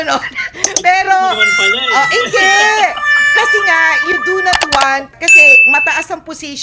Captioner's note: laughter